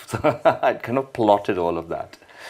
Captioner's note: laughing